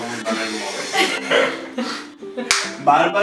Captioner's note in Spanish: risas